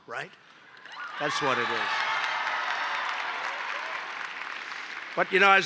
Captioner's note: applause